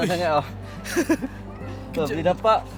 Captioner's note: laugh